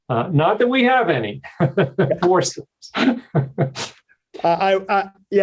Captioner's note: laughs